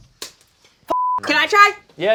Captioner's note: beep